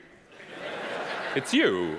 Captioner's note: audience laughing